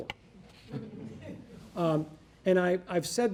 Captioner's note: audience laughing